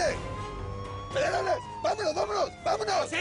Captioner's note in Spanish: Sirenas lejanas